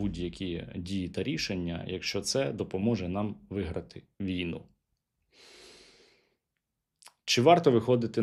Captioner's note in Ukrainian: сопіння